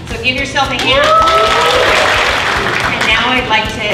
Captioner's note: cheering, applause